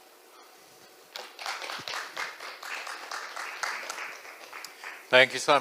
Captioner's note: applause